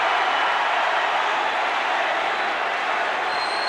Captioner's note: crowd cheers